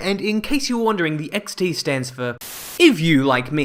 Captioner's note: Static